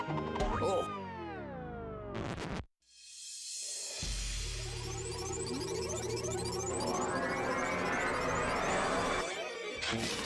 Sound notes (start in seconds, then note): 1.4 music stopping; 4.4 electronic buzzing